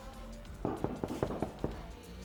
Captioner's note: multiple Knocks at the Door